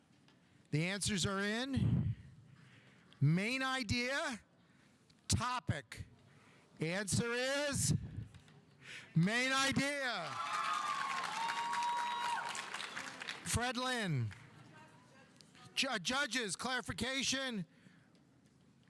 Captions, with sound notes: The answers are in. Main idea, topic. The answer is main idea. (audience applauding) (audience cheering) Fred Lynn. Judges, clarification.